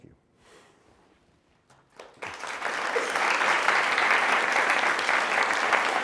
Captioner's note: applause